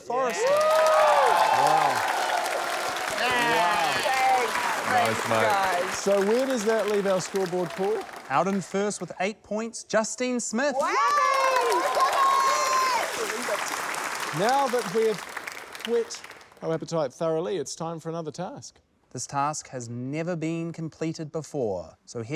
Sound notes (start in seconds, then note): 1.0 cheering, applause; 10.7 cheering